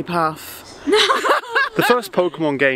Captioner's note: all laugh